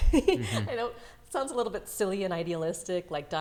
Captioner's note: laughs